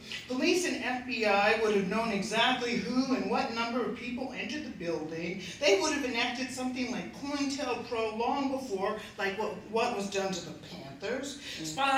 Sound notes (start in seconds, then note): none